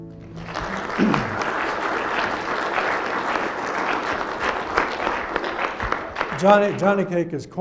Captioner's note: applause